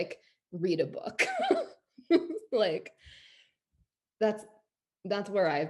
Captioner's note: laughs